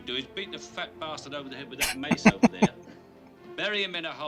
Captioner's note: laughing